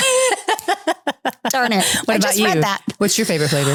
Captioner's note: laughing